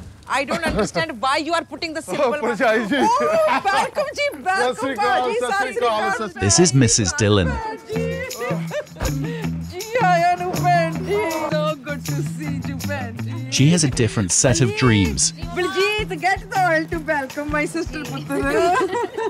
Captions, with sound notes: I don't understand why you are hanging the simple one's hello, sister hey there welcome, welcome my dear brother may God be with you this is Mrs Dhillon [laughing] welcome sister so good to see you sister she has a different set of dreams Baljit get the oil to welcome my sister